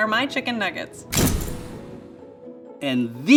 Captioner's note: camera flashing